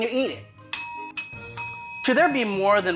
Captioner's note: ding